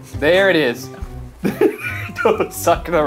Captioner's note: laughing